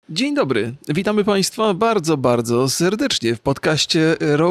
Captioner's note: speaking in foreign language